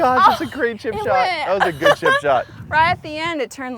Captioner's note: laughs